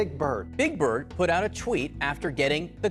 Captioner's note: soundbite of archived recording